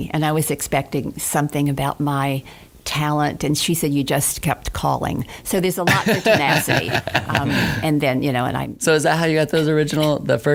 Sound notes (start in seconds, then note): 5.8 laughing